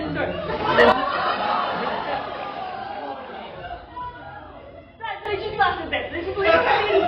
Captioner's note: disappointment and screaming